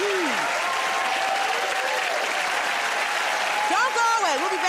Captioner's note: cheers and applause